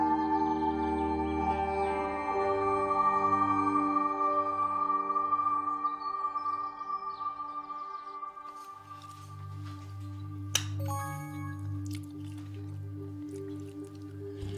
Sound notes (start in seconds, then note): 10.8 message tone